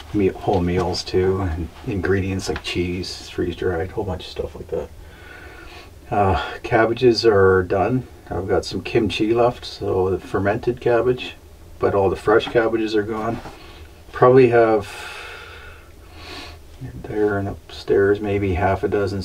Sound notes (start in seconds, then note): none